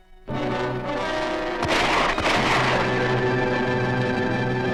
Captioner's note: gun shots ring out!